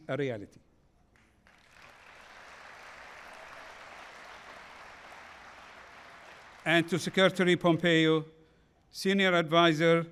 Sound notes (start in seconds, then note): 1.1 applause